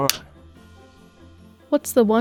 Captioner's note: clapper snapping